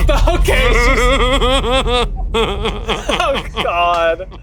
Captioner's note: laughing